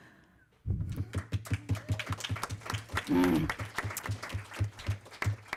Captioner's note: audience Applause